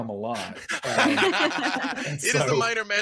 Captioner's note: group laughs